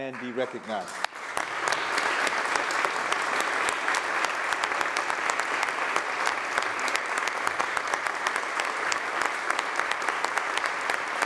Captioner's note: applause